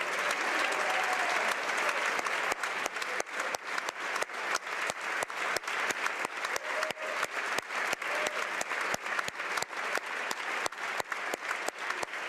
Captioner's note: applause